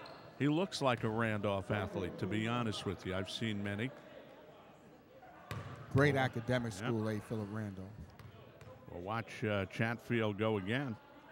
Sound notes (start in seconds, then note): 4.8 ball pounding; 4.8 yelling